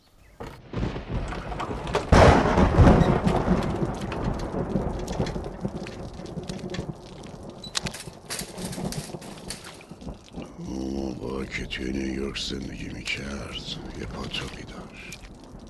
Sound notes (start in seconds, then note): 0.2 thunder storm; 4.9 water flowing